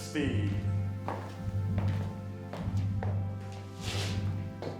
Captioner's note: footsteps plodding